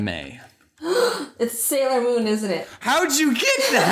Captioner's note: gasp